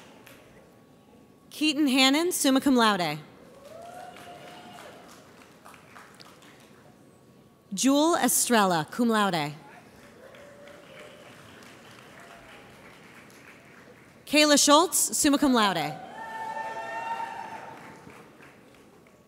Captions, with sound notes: Keyton Hannan, summa cum laude. (audience applauds) Jewel Estrella, cum laude. (audience applauds) Kaela Schultz, summa cum laude. (audience cheers)